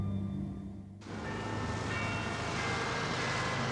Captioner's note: Big Ben chimes